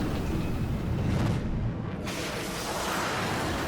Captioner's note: jet engine noises